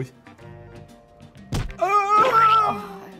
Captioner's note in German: Schlaggeräusch, Pflatsch